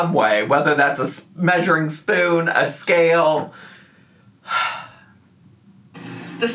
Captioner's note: sighs